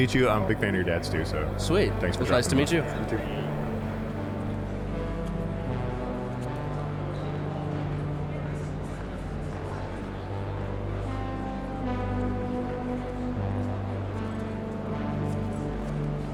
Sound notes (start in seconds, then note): 3.9 chill ambient synth music; 3.9 general chatter